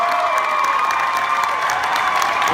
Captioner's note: applause